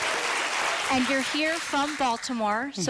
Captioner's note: applause